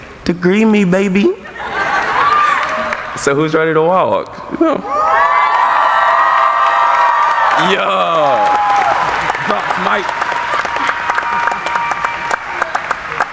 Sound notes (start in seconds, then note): 1.4 laughing; 4.9 audience applauding; 10.8 cheering